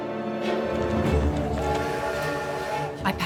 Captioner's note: train whistle blows